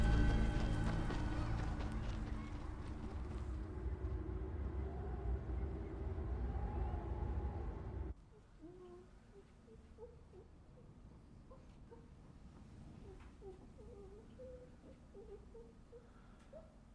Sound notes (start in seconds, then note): 0.0 footsteps crunching; 4.8 wind howling; 10.0 child whimpering